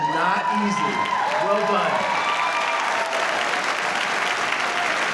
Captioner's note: audience cheering